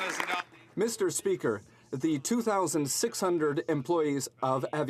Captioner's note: some Applause